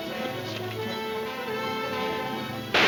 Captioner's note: gun firing